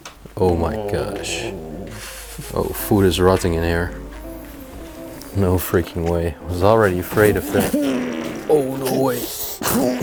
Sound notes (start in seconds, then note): 7.3 gagging